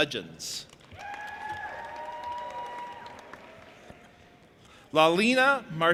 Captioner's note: audience applauding and cheering